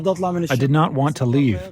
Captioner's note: through translator